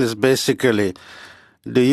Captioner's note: speaking French